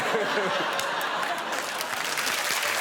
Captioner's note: pops